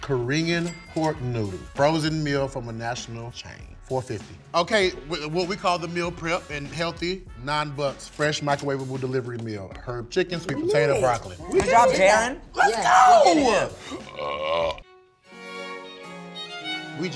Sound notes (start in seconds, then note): 13.8 belches; 14.9 classical music